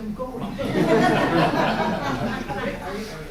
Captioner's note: laughter